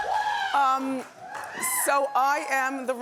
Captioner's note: cheering